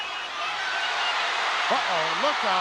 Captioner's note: crowd cheers